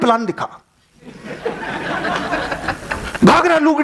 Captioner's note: laughing